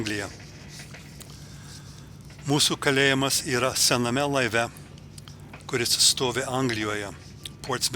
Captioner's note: girgždančio laivo garsai